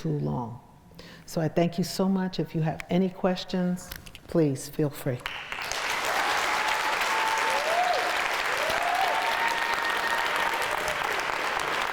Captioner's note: crowd cheers